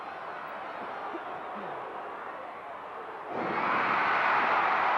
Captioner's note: audience cheering continues